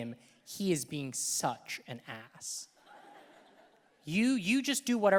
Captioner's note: audience laughing